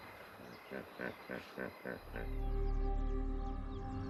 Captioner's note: hippo groaning; suspenseful music